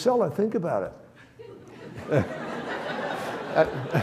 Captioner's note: audience laughs